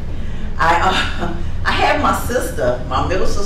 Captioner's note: laughs